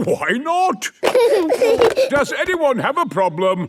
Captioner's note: giggling